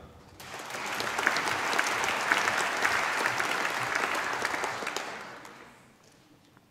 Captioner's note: applause